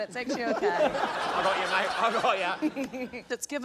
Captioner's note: laughter